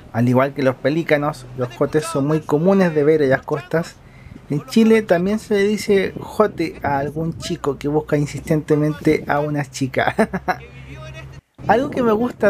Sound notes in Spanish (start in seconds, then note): 10.0 risas